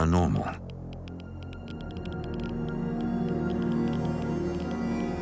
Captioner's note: meter crackling